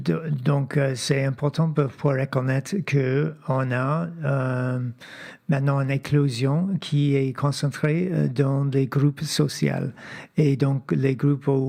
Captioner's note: speaking French